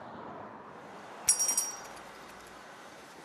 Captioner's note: bell jingles